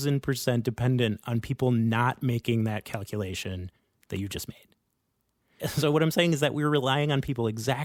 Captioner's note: laughs